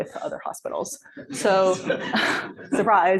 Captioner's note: laughter